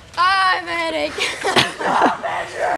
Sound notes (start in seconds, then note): 1.1 laughter